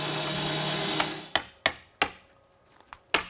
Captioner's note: machinery stops